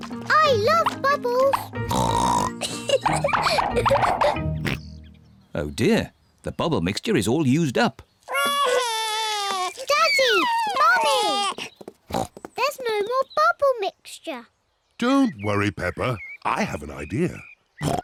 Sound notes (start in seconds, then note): 1.5 oinks and giggles; 4.6 oinks; 8.3 wails; 12.1 oinks; 17.8 oinks